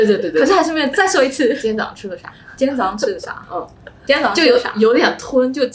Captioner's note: faking my friend's accent